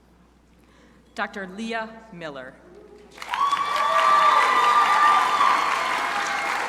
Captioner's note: crowd applauding